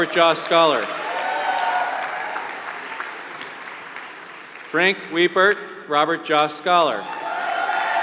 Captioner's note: applause; applause